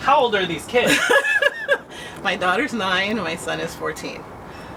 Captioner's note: laughter